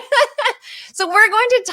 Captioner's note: both laughs